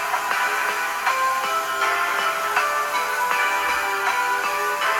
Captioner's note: christmas music playing; router buzzing